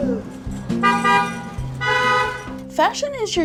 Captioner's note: car honks